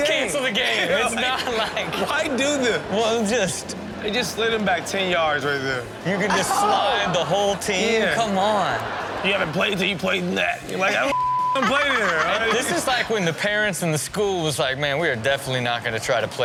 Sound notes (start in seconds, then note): 8.0 audience laughs; 11.0 beep; 11.5 audience laughs